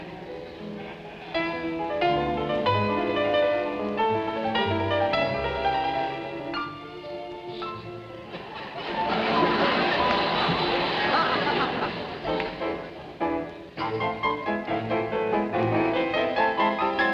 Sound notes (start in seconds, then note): 8.2 audience laughing; 13.6 piano concerto playing